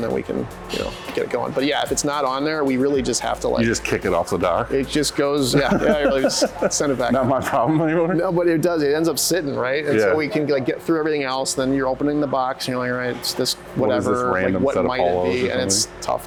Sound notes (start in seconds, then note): 5.4 giggles